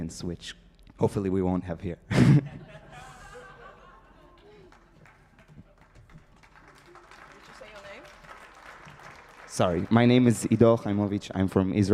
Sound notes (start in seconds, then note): 3.9 audience clapping